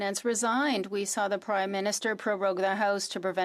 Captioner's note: speaking French